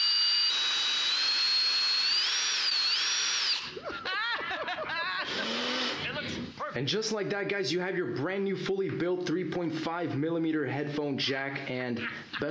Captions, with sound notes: (loudly laughing) And just like that, guys, you have your brand new, fully built, 3.5 millimeter headphone jack and,